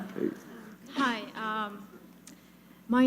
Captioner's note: laughter